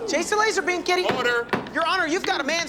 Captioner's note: banging